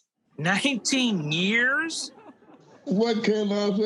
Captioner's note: audience laughing